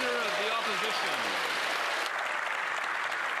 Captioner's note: cheers & Applause